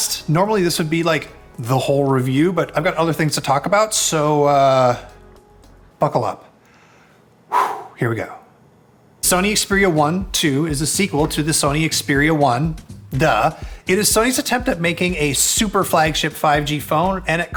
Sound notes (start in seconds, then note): 7.5 he sighs